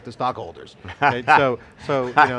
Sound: laughter

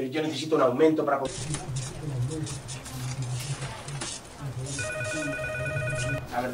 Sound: murmur

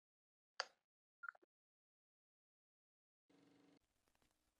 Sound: computer beeping

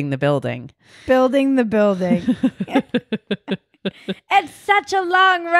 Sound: laughing

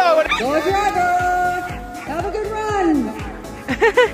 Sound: TV Announcer voice; loudspeaker voice; laughing

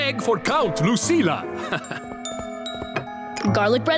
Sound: chuckles

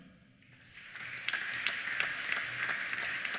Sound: applause

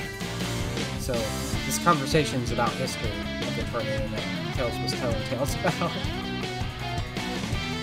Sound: laughs

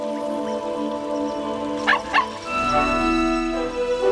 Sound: barking

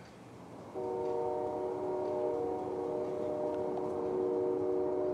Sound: train whistle blowing

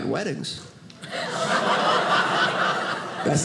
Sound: audience laughing

